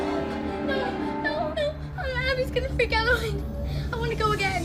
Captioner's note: crying